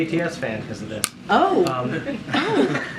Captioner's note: laughter